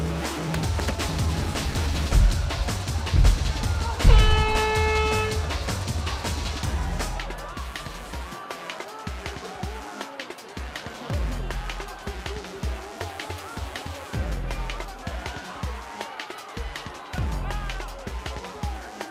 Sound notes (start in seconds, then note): 4.0 horn blowing; 8.5 scattered shouting